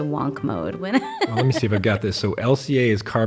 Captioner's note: chuckles